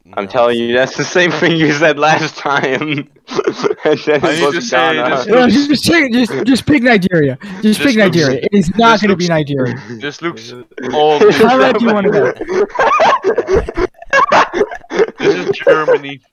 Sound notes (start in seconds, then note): 1.2 laughing